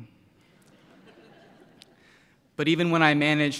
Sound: laughter

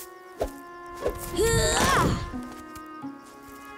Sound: grunting

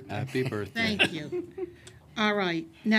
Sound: laughter

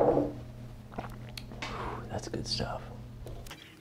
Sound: gulp

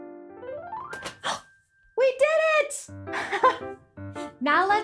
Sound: gasps

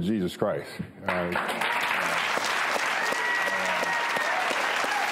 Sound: audience applause

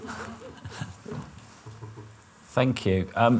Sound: muffled laughter

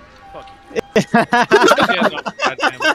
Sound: laughter

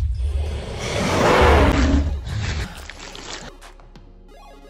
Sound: dinosaur roars

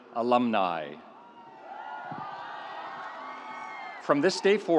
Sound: audience cheering

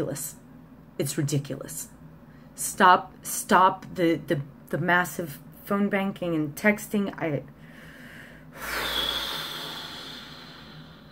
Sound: deep exhale

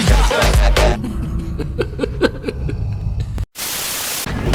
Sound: laughter

